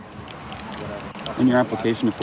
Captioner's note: shuffling noise